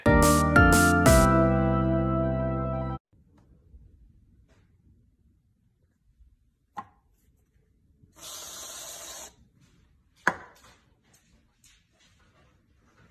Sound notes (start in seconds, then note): 0.0 upbeat music plays; 8.2 sprays